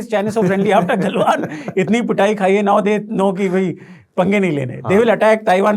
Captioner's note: chuckles